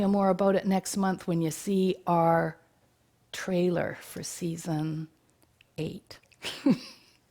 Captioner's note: chuckles